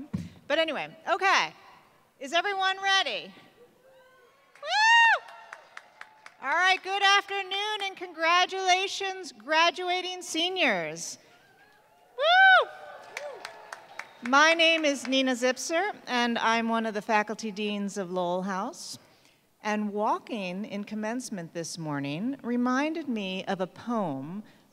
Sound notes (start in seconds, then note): 5.2 applause